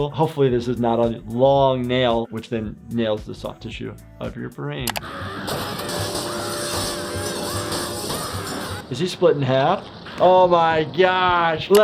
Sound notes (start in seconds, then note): 5.1 Handy screaming; 5.5 glass shattering